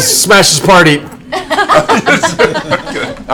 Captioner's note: laughter